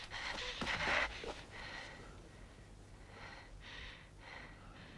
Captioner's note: Hundra breathing heavily